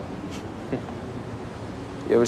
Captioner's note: chuckles